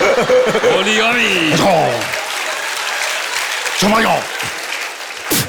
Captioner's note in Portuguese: risos; conversa em japonês